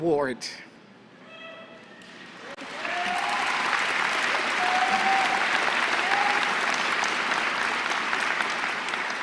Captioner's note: applause